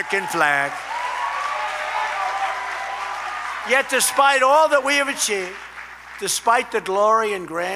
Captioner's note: applause